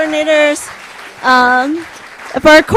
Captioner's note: applause